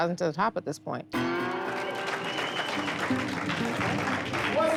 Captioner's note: applause